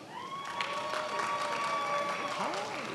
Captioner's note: attendees applauding